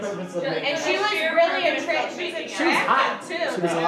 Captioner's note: group chattering